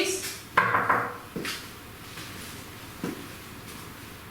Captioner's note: knocks on door